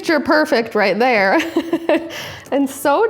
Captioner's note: laughing